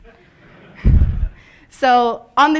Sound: laughter

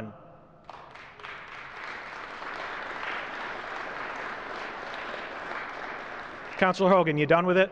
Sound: applause

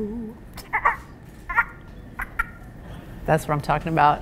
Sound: squirrel noises

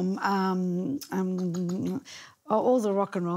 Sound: tongue clicking

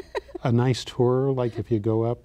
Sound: laughs

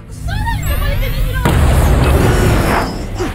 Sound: energy pulses

